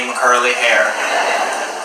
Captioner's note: audience laughs